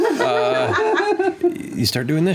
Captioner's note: laughter